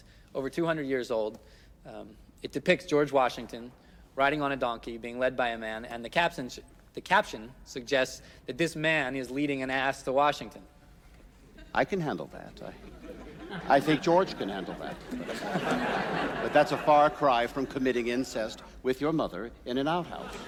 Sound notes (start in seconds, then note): 15.1 crowd chuckling